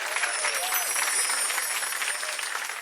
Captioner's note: chimes